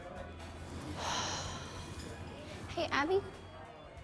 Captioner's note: sighs